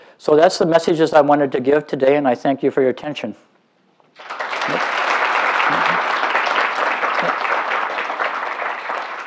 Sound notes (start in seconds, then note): 4.1 applause